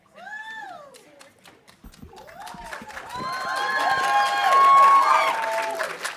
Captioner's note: audience cheering and applauding